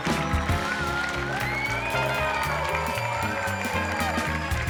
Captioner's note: audience applause continues; audience cheering continues; bright music continues